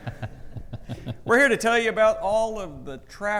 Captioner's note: audience laughing; laughs